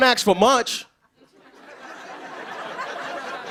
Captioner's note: laughter